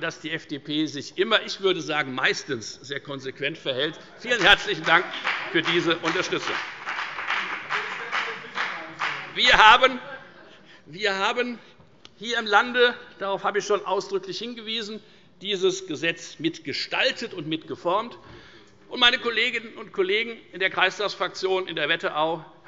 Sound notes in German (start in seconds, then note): 6.5 Beifall bei der FDP